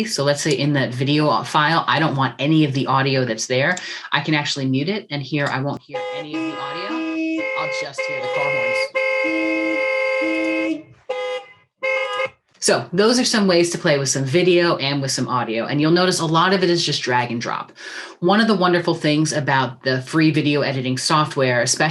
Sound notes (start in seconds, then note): 5.8 car horn sounds